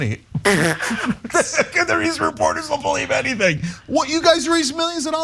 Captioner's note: laugh